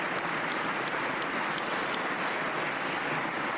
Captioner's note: applause